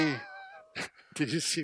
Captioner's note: chuckling